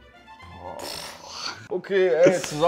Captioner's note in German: Er stöhnt